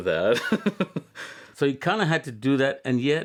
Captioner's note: laughter